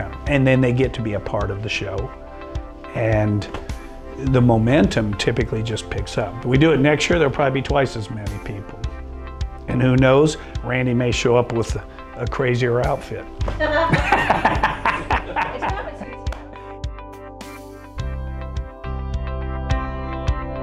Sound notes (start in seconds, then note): 13.7 laughter